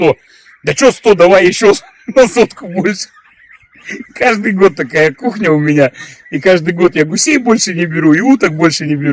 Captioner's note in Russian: смех